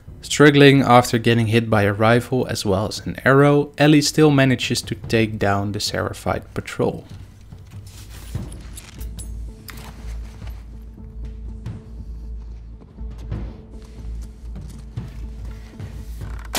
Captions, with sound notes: Struggling after getting hit by a rifle as well as an arrow, Ellie still manages to take down the Seraphite patrol. [Crafting noises]